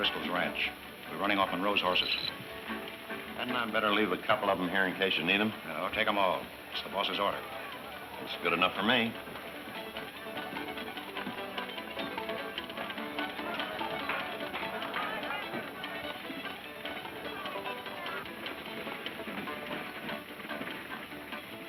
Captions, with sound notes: We're running off Monroe's horses. - That man better leave a couple of them here in case you need them. - No, take them all, it's the boss's order. - That's good enough for me. (upbeat music) (people chattering)